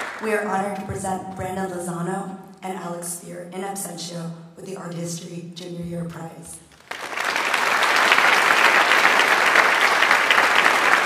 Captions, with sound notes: We are honored to present Brandon Lozano and Alex Spear in Absentia with the Art History Junior-Year Prize. (audience applauds)